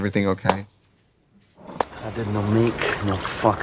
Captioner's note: Katya clapping